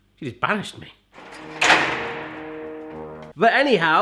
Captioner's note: court hammer bangs